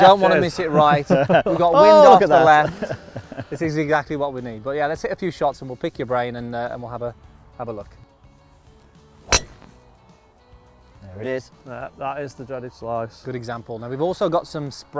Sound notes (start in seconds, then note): 0.0 laughing; 9.2 golf Ball Being Hit